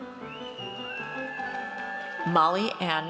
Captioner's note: audience cheers